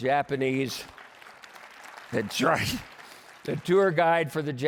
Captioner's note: applause